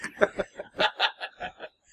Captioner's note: laughs